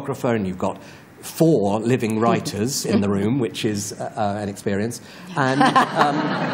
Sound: laughter

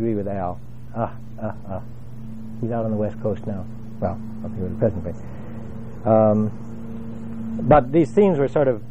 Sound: laugh

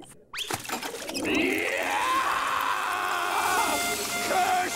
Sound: screaming

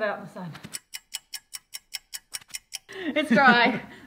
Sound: clock ticking

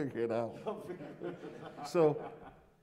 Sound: laughter

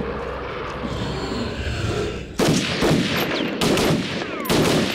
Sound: gun blasting

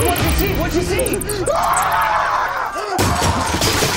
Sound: screaming

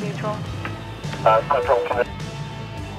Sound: upbeat music; radio chatter

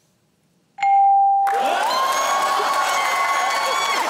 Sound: cheering and applause

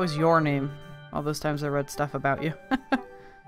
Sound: laughs

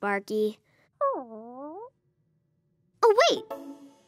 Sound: Sparky moans

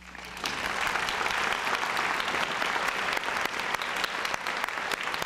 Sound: applause

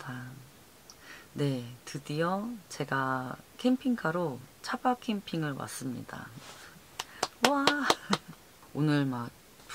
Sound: applause

